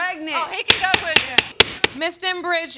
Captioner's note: gavel banging